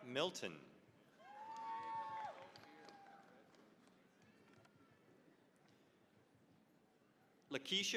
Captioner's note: cheering, applause